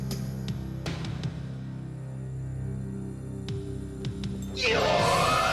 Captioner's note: yelling